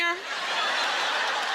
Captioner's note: laughter